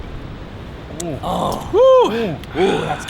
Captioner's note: all exclaiming